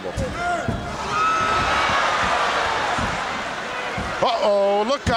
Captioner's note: audience cheering